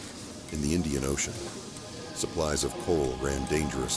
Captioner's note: indistinct chatter